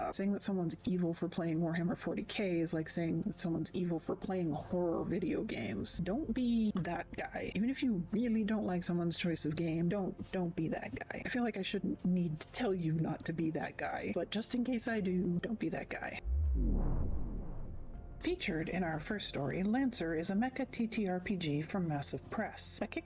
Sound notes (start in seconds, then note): 16.2 vwoom